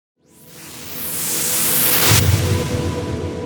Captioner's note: whooshing